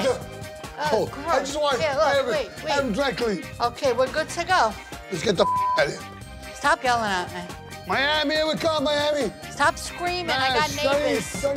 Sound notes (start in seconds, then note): 5.4 beep